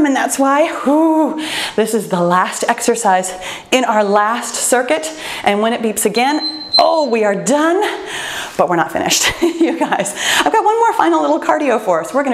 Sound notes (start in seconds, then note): 1.4 exhales; 6.1 timer beeps; 9.3 laughs